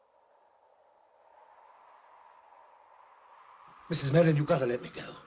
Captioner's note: wind blows